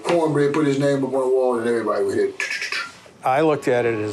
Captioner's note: clicks